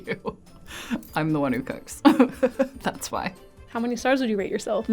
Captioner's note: laughs